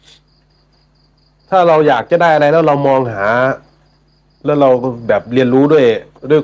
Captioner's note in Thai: เสียงสูดหายใจ